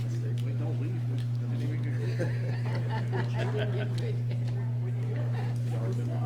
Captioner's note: laughter